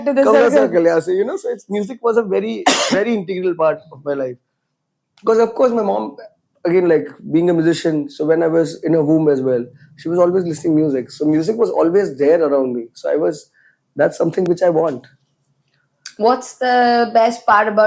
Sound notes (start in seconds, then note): 2.4 coughs